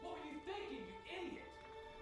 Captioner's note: shouting